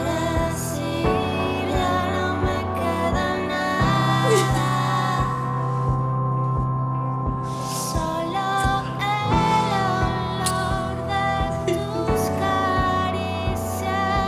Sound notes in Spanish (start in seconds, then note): 4.0 Sollozos; 11.3 Sollozos